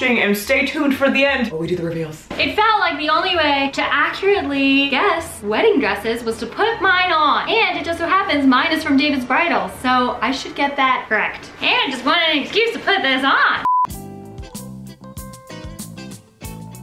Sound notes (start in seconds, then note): 13.6 beep; 13.9 melodious music